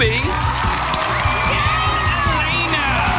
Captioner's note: cheering